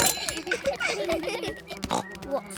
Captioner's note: all laugh; buzzing